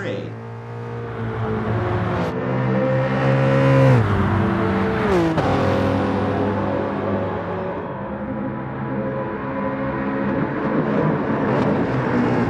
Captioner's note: engines revving, cars noises